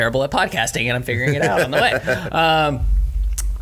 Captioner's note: laughs